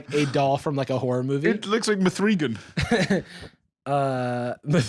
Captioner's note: chuckles